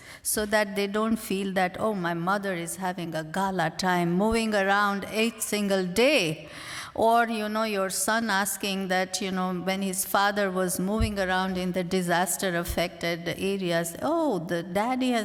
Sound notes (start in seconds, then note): none